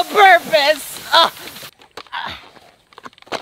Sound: groaning

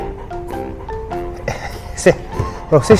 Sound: laughs

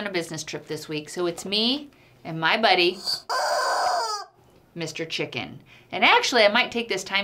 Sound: chicken screaming

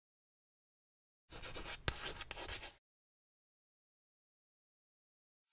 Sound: chalk scratching

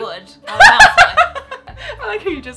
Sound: laughing

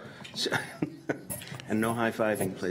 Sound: chuckles

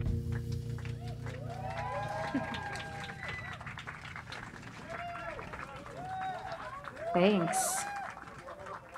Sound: applause

